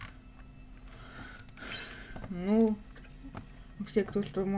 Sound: sighs

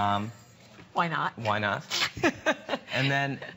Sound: laughter

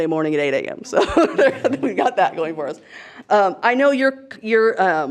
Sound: laughs

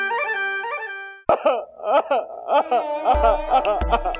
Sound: crying

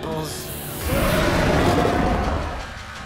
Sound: roaring

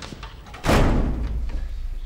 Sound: door slams shut

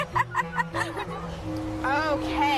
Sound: laughing

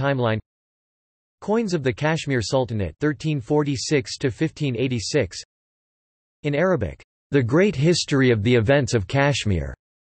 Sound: in Arabic

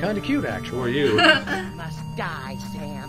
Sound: laughs

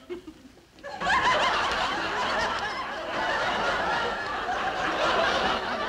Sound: audience laughing

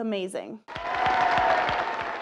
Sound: applause

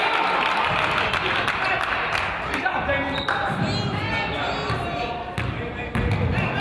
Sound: crowd applauds

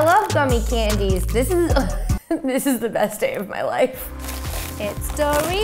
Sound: chuckles

